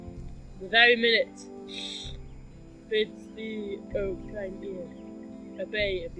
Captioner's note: sniff